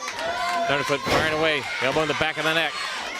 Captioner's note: crowd cheering